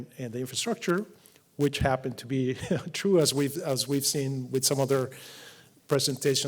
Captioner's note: laugh